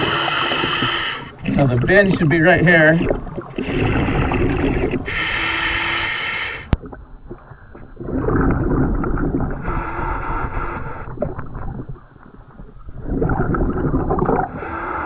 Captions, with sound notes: (regulator hissing) So the VIN should be right here. (water burbling) (regulator hissing) (water burbling)